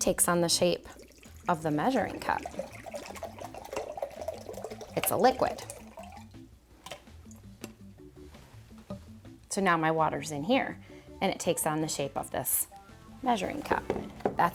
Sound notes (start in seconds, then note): 3.0 water rattling